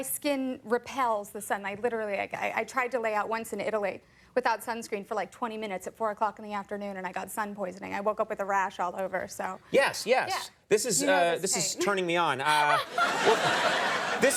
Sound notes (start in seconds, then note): 12.4 Amy laughing; 12.5 audience laughing